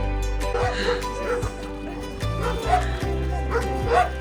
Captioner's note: dogs barking